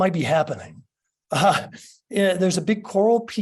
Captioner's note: laughs